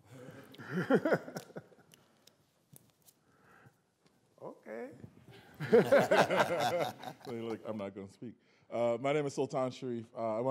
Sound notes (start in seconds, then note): 0.2 laughs; 5.5 laughter